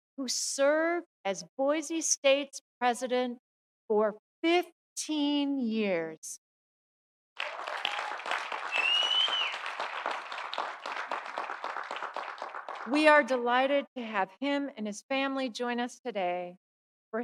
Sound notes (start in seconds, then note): 7.4 audience cheering; 7.4 audience applauding